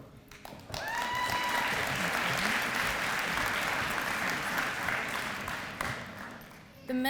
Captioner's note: applause